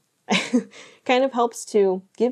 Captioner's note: chuckles